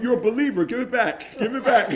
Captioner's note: laughing